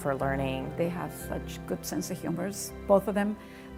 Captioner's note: female voice